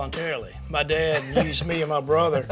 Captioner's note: laughs